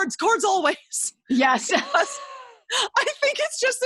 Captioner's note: laughs